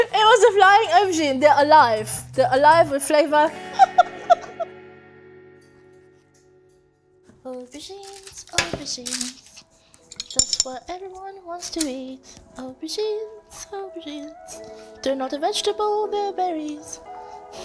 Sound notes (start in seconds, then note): 3.6 laughs